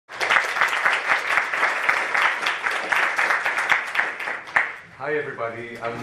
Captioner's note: applause